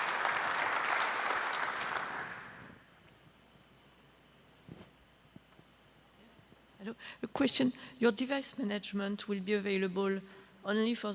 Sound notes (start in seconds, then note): 2.5 applause